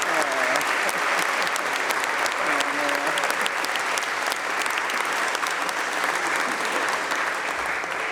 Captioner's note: applause